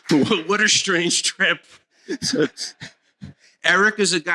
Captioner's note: laughter